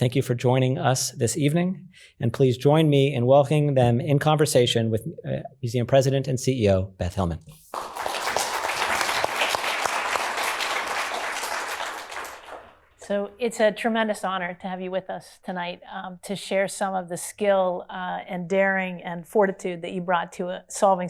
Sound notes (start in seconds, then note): 7.6 applause